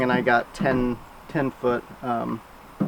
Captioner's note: none